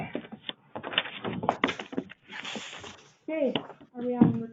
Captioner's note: papers rustle